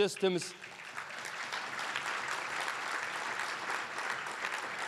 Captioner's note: applause